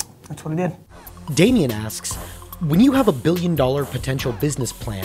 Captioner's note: voiceover